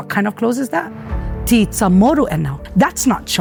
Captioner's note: in native chamoru